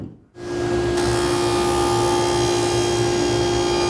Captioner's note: saw whirring